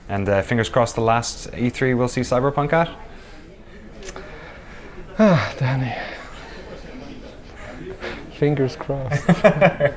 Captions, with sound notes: - And fingers crossed, the last E3 we'll see Cyberpunk at? - (sighs) Oh, Danny. Fingers crossed (laughs).